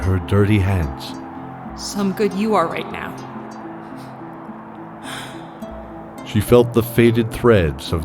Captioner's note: sigh and a sniff